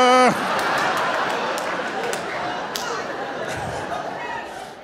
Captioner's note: audience laughing